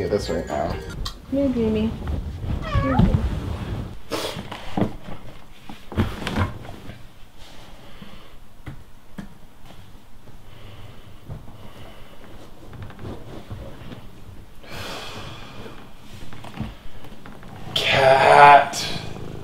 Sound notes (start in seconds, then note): 2.6 cat meows